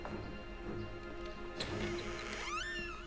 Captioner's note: door opens